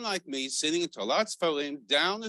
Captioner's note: Hebrew words